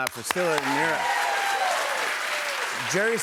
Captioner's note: cheers and applause